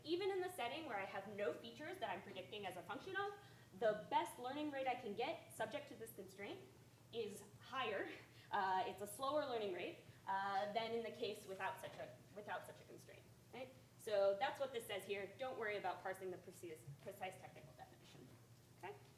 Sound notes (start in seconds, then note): none